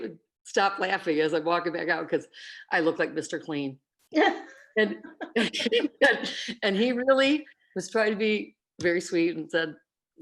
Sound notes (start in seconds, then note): 4.8 laughter